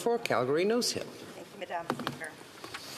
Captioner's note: off mic